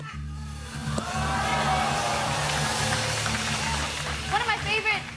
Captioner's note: audience groans